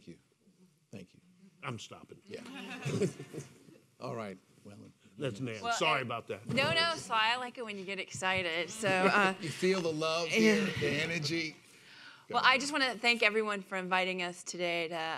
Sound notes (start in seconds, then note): 2.4 laughing